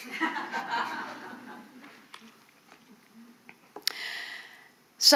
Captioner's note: audience laughing